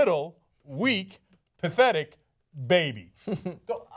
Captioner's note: laughter